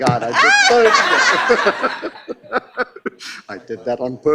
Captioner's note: laughing